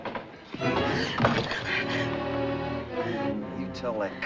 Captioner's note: gasps